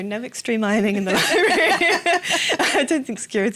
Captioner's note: laughter